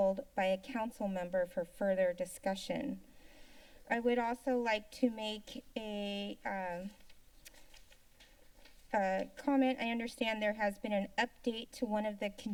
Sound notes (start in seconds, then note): 3.1 inhales; 7.4 paper rustling sound